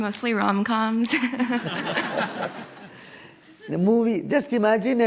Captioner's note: laughter